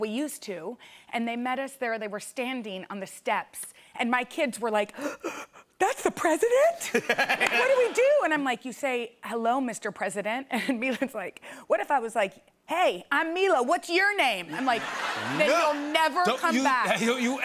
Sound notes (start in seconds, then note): 4.8 gasps